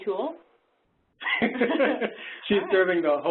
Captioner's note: laughing